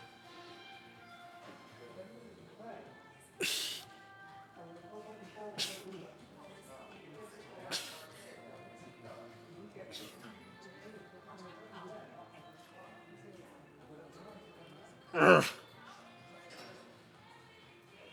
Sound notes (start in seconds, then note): 3.4 grunts; 3.9 soft music